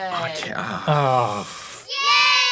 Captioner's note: both make disapproving sounds